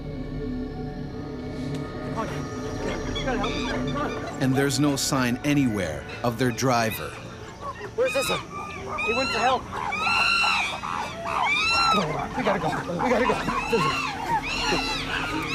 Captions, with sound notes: - [Voiceover] And there's no sign anywhere of their driver. - Where's Isa? - He went to help. (chimpanzees chattering) - Come on, we gotta go, we gotta go.